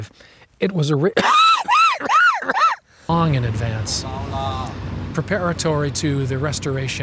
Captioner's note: laughs